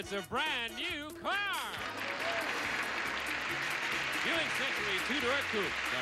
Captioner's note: audience applauding